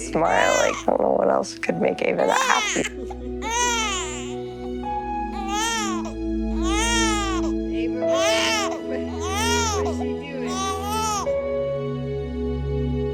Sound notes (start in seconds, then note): 3.6 baby crying; 10.5 subtle music